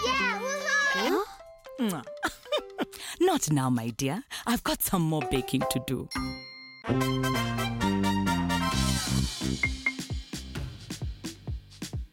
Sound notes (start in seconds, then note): 6.2 ding!; 6.8 theme music